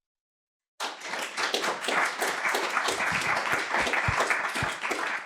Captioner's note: applause